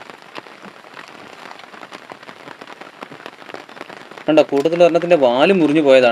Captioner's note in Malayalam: കരഘോഷം